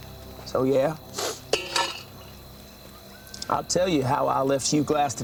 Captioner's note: sniffs